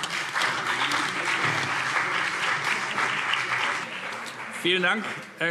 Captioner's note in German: Beifall CDU und BÜNDNIS 90/DIE GRÜNEN